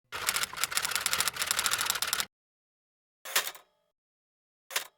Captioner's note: typewriter keys clicking